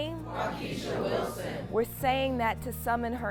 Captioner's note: crowd